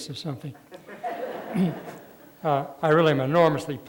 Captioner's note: laughter